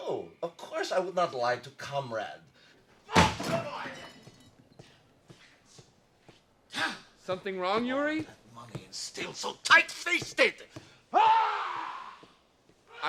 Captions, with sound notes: No, of course I would not lie to comrade. (phone crashes) - Something wrong, Yuri? - All that money, and still so tightfisted! (Yuri yells)